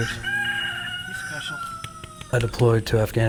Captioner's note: rooster crowing